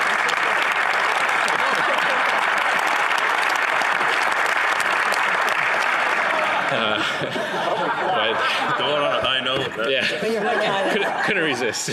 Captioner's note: applause